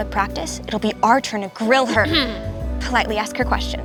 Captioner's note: Makayla clearing throat